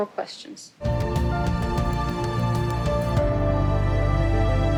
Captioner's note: spanish continues